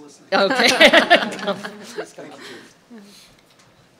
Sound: laughter

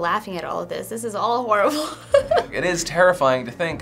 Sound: giggles

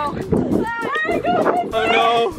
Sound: yelling

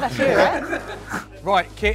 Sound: laughter

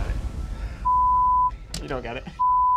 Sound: beep

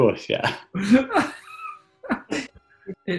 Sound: laughing

